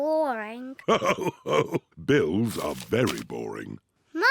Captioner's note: laughing